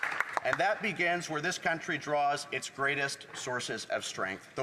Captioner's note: some Applause